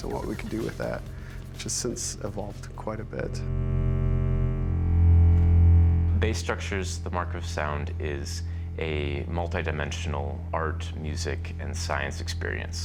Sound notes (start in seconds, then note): 3.3 monotone plays